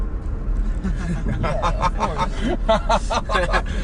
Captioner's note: laughing